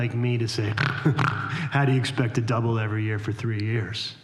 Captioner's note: snorts